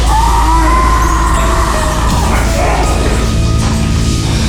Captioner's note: zombie screaming; dramatic music